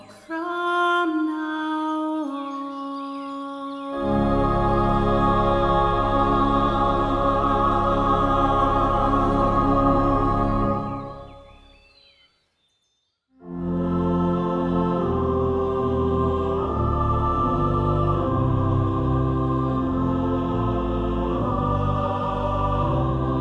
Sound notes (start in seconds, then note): 11.1 birds chirping